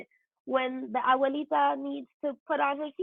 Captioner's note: foreign language